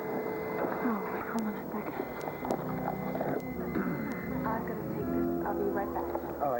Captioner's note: pager beeps